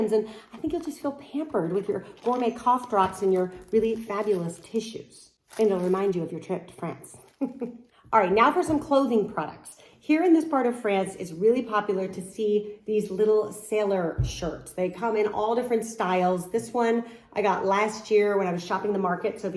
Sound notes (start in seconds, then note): 7.3 chuckles